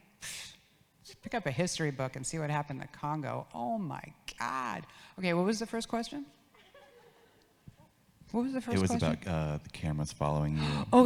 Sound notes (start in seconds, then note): 6.9 audience laughs